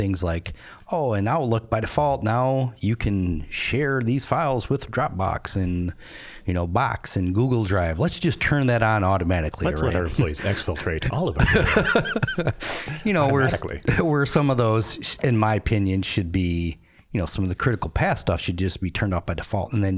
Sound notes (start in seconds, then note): 11.3 laughing